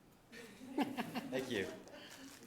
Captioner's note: people laughing